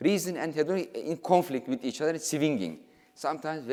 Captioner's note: speaking in foreign language